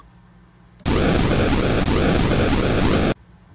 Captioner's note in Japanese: 焼ける音